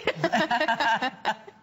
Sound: laughter

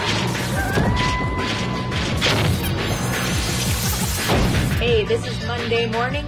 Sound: ominous music; wolf howling

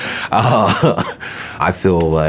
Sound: laughs

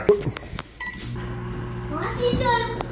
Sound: microwave beeps and hums

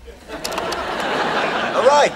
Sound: audience laughing

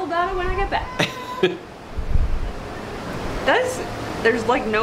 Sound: laughing

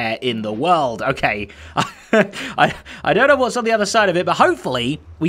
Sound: chuckles

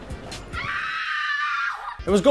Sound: woman screaming

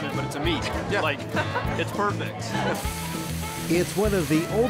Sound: laughing

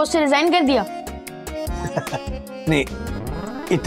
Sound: laughing

